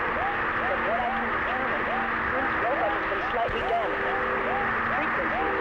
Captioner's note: static buzzing